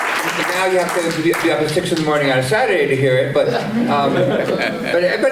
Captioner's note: applause